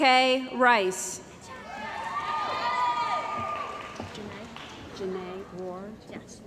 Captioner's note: cheering & Applause